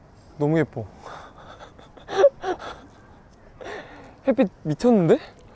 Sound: laughing

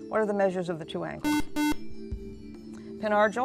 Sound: buzzer

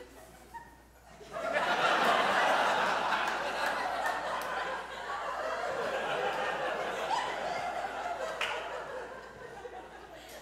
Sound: audience laughs

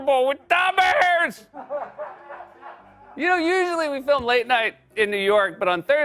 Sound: laughter; normal voice

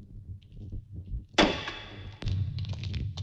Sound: thud

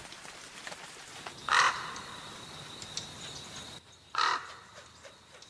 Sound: crow squawking

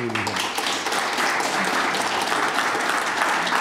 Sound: applauding

